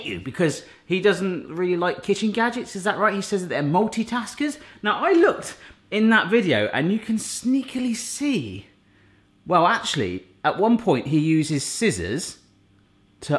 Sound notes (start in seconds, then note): none